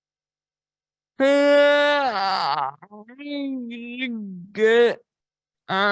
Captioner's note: groaning